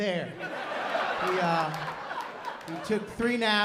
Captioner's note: laughter